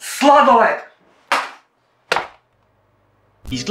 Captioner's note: slap